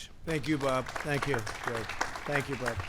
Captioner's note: applause